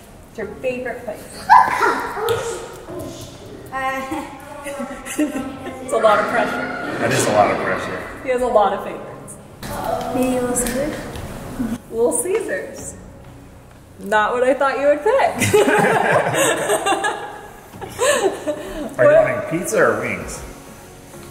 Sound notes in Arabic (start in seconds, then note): 15.4 يضحك